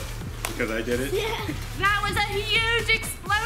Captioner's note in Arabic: يضحك